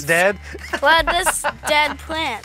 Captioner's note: laughs